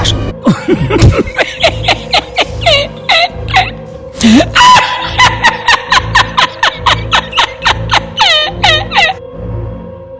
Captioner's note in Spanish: Risas